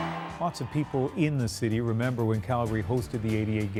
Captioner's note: cheers and Applause